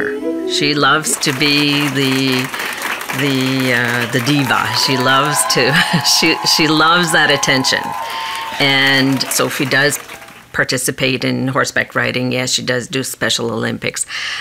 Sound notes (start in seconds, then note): 4.3 cheering